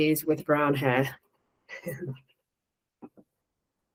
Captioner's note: soft chuckle